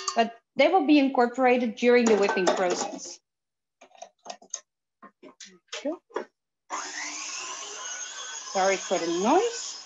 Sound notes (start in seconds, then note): 6.7 whirring